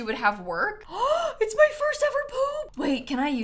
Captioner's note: gasps